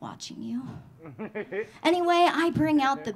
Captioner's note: audience laughing